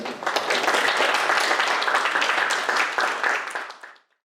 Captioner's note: audience applauding